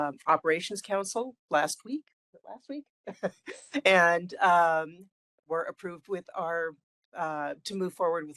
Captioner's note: laugh